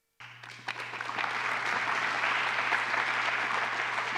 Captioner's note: applause